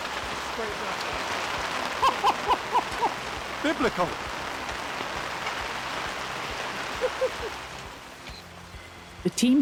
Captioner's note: rainfall